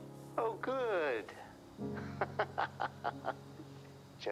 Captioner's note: laughing